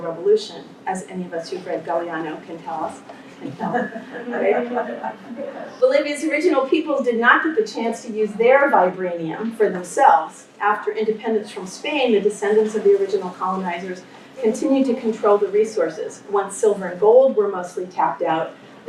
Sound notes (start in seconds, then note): 3.4 laughter